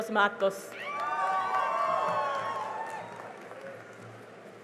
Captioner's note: cheering and applause